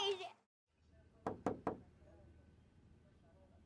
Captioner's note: knocking